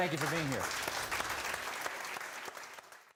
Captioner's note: applause